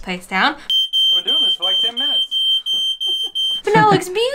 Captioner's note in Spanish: sistema de alarma contra incendios sonando